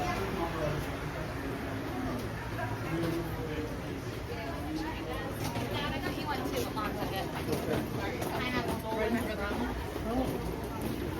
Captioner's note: walking